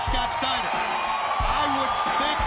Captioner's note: crowd cheering